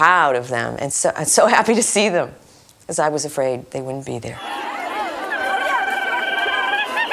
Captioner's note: crowd shouting and cheering